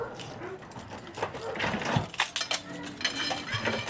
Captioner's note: keys unlocking door